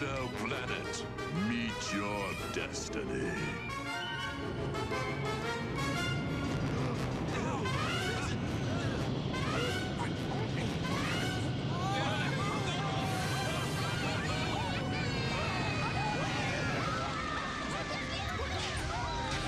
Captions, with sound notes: INFIDEL PLANET, MEET YOUR DESTINY. [ALL GASP] [SHOUTING AND YELLING] [YELLING AND SCREAMING]